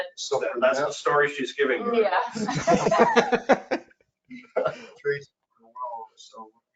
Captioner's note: laughing